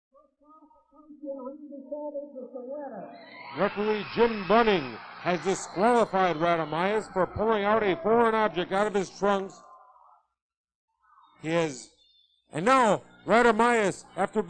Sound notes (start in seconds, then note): 0.6 audience cheering